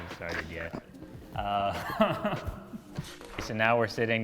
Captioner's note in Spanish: risas